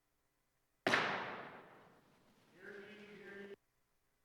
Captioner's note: gavel